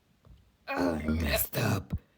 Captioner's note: more animal noises